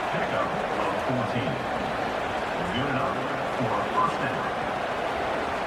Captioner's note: crowd Noises